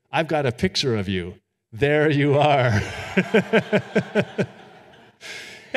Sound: audience laughing; chuckles

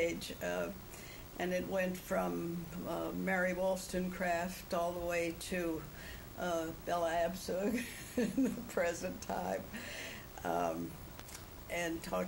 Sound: laughs

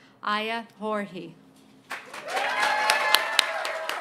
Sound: applause

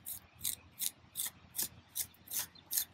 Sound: trowel scraping

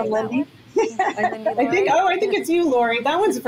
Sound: overlapping chatter

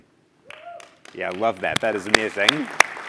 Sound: applause

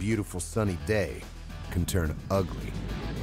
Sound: voiceover

